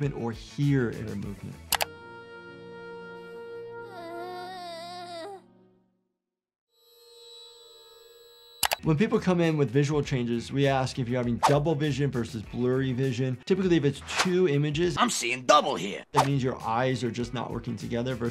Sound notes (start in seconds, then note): 1.7 mouse clicks; 2.3 somber music; 3.7 giggles groans; 6.6 ears ringing; 8.6 mouse clicks